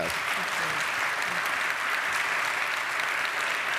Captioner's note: audience applauds